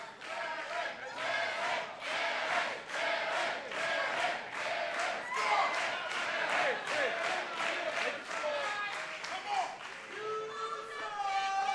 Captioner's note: fans chanting